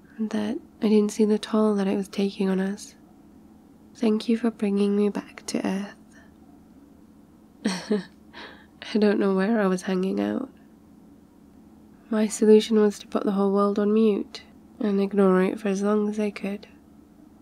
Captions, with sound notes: that I didn't see the toll that it was taking on us thank you for bringing me back to Earth *laughs* I don't know where I was hanging out my solution was to put the whole world on mute and ignoring it for as long as I could